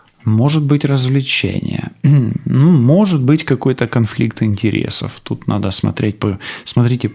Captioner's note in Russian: откашливается